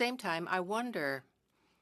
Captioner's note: speaking French